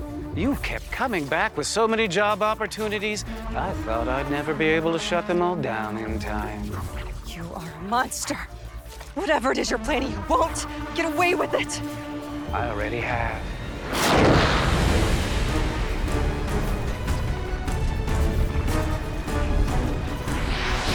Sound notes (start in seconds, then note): 13.8 loud zapping; 15.8 music intensifies